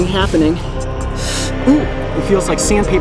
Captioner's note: inhales